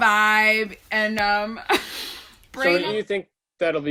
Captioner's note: Jenny laughs